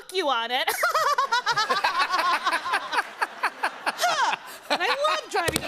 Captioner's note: laughter